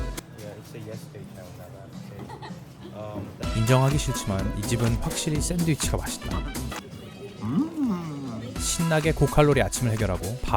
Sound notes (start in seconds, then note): 7.4 sipping